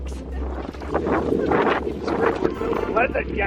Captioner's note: wind howls